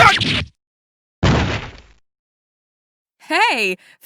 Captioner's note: thud